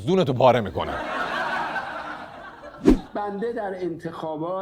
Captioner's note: laughter